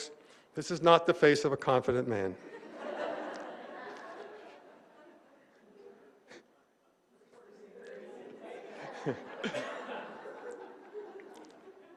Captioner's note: laughing